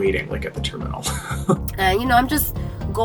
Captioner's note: laughs